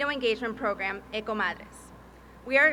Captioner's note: speaking Spanish